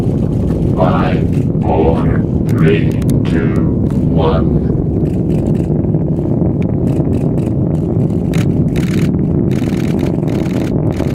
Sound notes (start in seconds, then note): 2.6 explosion; 7.6 cameras clicking